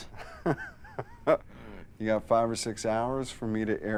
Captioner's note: laughs